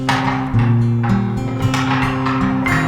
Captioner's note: boards clatter